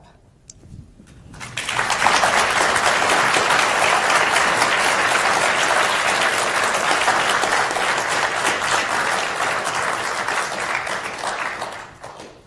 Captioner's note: applause